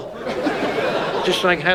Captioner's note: audience laughs